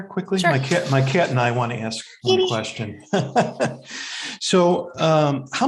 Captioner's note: chuckles